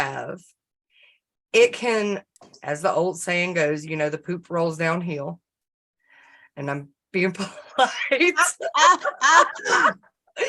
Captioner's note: laughter